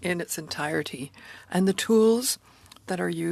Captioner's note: speaking French